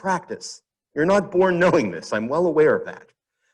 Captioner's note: chuckles